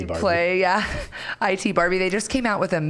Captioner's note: chuckling